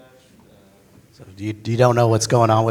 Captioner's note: pat